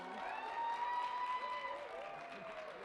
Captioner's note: cheering and applause